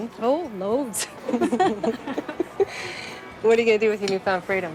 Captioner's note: laughing